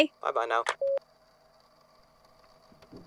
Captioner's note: phone hangs up; moving noises & keyboard clacking